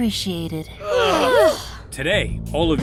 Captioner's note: sighs of relief